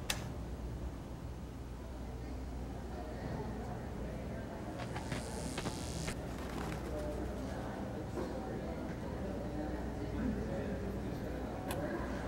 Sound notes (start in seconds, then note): 4.7 lights buzzing; 9.1 people chattering